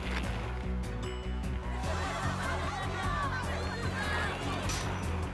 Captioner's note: cheers